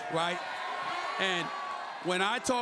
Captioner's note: crowd cheers